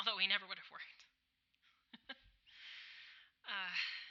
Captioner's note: another nervous chuckle